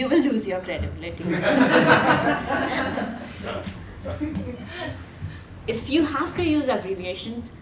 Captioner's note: laugh